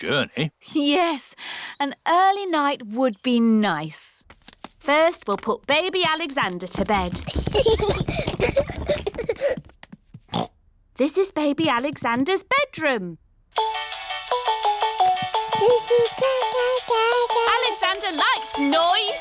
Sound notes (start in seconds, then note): 7.2 children giggling; 10.3 oinks; 13.6 mobile playing loud music; 15.6 cooing